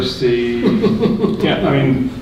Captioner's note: laughing